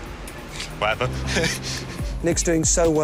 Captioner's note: laughs